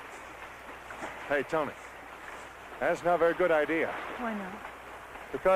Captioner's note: roaring